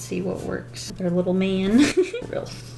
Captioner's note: giggles